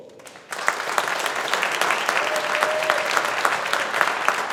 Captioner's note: audience applauding